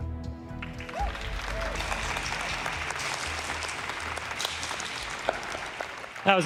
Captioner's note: applause